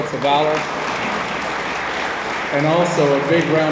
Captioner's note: attendees applaud